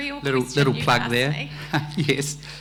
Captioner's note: laughs